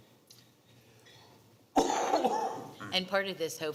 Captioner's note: coughs